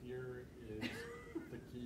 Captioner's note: laughs